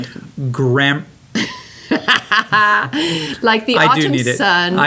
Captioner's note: laughter